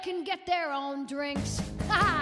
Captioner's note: laughs